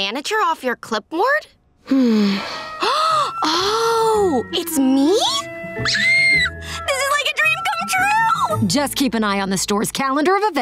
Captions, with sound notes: off your clipboard? [sighing] [gasping] Oh, it's me? [squealing] This is like a dream come true! Just keep an eye on the store's calendar of events